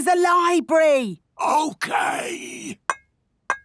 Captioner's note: whispering